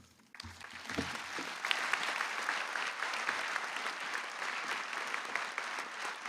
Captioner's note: applause